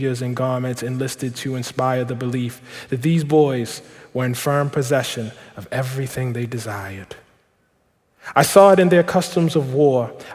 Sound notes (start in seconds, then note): none